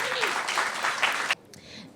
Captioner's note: applause